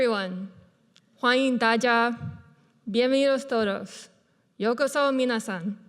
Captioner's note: speaking foreign language